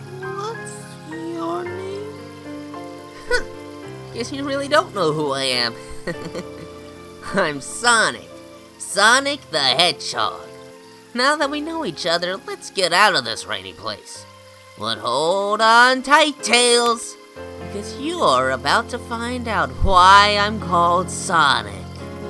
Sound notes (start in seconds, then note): 5.7 chuckles